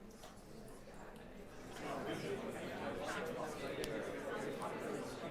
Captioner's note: indistinct chatter